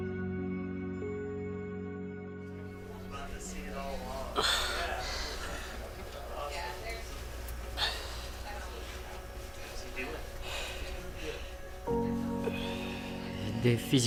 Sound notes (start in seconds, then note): 4.2 painful gasping; 12.0 calm music